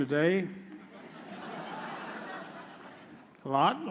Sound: audience chuckles

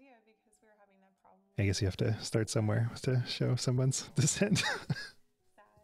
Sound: laughs

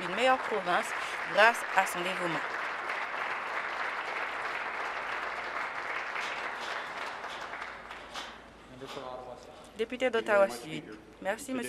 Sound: applause

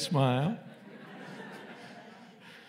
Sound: laughter

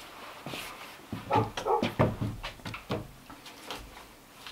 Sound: Cali barking

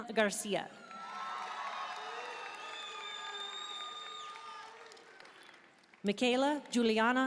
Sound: audience cheering and applauding

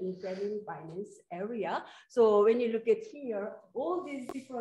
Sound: none

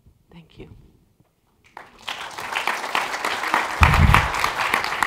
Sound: applause

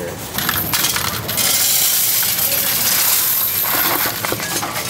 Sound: coins rattling

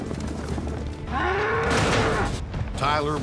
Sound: mooing; bangs against corral

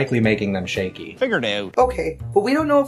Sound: Canadian accent

